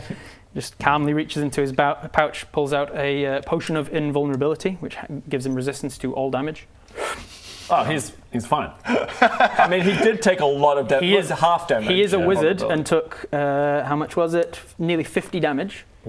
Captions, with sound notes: just calmly reaches into his pouch pulls out a potion of invulnerability which gives him resistance to all damage Oh he's he's fine! *over-confident laugh* I mean, he did take a lot of dam-- He is-- half damage he is a wizard, and took how much was it? nearly 50 damage